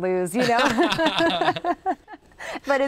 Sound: both laughing loudly

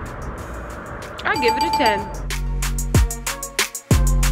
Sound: dings; mellow dance music

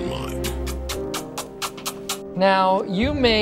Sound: kissing noises

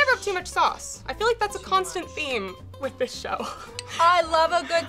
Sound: laughs

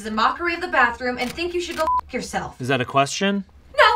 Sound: beeps

